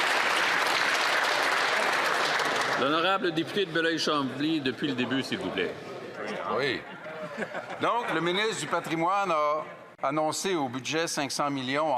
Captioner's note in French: applaudissements